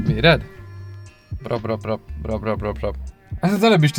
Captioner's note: future m50b25 turbo noises